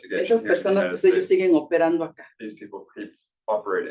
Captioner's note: speaking Spanish